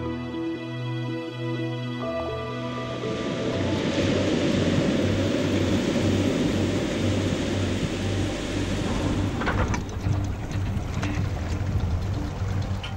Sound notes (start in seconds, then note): 2.8 sound of waves crashing on beach; 8.0 sound of boat motor idling